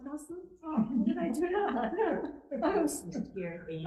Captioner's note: laughing